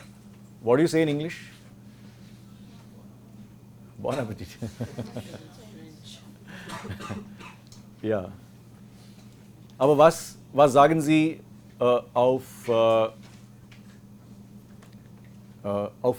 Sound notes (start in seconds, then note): 4.0 laughs